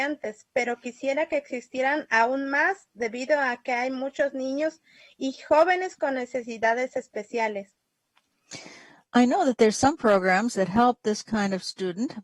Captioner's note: speaking spanish